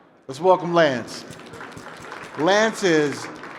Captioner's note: applause